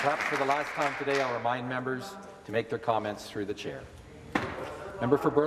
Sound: some Applause

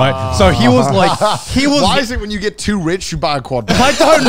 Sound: laughing

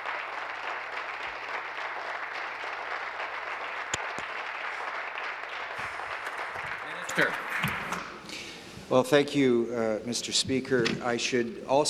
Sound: applause

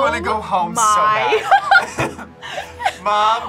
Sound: both laugh

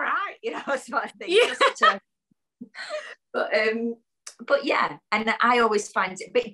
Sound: laughs

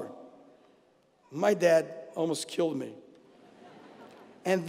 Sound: laugh

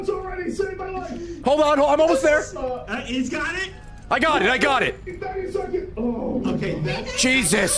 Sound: sighs in relief

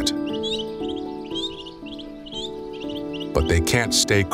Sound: birds chirping

